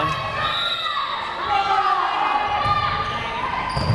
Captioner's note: whistle blares